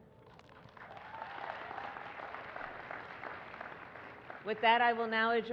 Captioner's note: applause